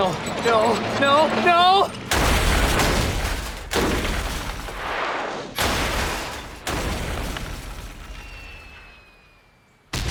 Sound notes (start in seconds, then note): 2.1 crash